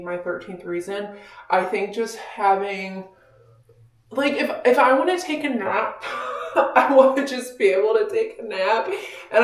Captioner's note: laughing